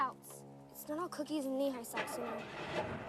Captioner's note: engine turns over